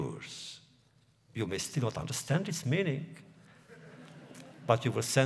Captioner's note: laughter